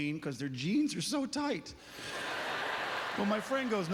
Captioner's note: audience laughter